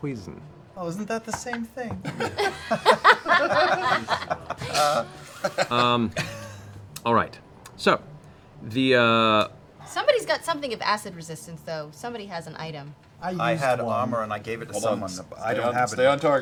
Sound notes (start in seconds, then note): 4.8 laughter